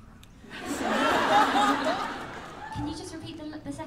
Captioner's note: laughter